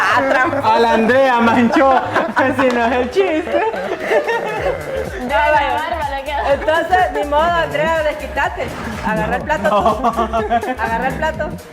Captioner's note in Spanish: Laughs